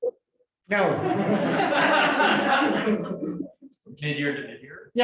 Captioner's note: laughter